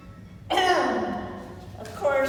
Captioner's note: NARRATOR coughs